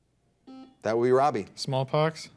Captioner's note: buzzer dings